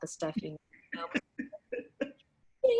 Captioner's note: laughter